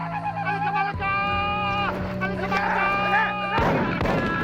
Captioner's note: shouting in foreign language; guns firing